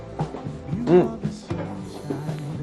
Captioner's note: Noreal hums